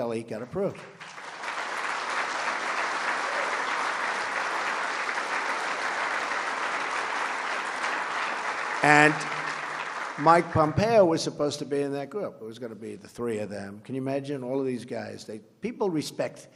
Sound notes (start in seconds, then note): 0.5 applause